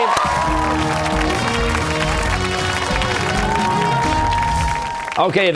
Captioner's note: cheers and applause